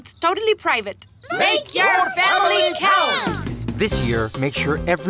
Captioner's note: crowd